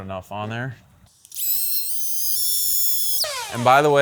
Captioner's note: tape forwards